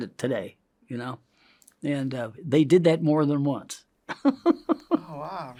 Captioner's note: laughs